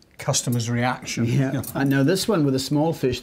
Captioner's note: both chuckling